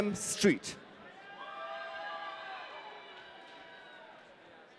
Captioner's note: audience cheering